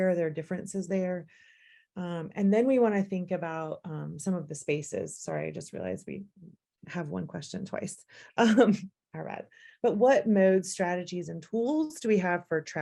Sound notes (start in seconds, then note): 8.3 laughter